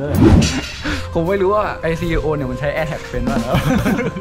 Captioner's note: gasps; laughs